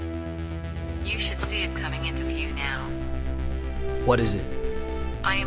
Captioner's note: drone; drone